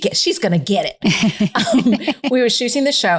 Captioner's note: laughing